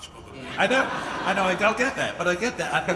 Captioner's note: audience laughing